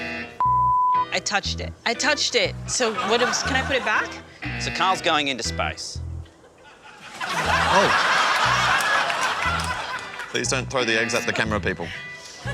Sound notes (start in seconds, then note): 8.8 laughter